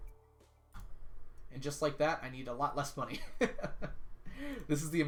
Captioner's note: laughs